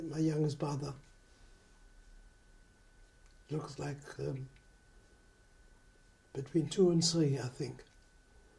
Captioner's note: pauses for 3 seconds